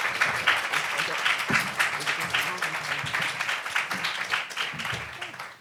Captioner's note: panel members chattering